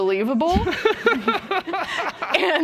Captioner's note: laughter